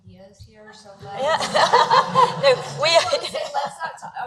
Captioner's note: laughing